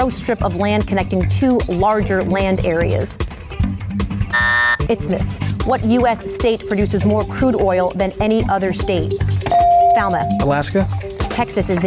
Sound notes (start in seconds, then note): 4.2 timer buzzes; 9.5 bell dings